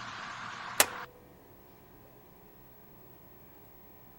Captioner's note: tape recorder clicking